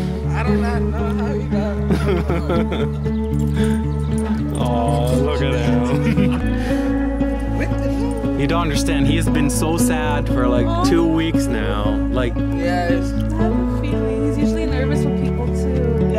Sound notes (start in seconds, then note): 5.4 giggles